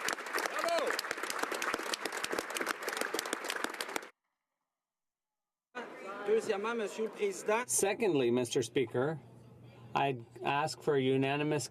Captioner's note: some Applause